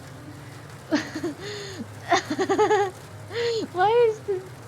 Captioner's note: laughs